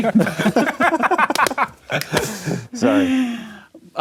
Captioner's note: laughing